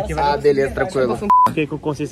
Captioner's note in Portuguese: som de bipe